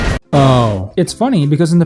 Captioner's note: crash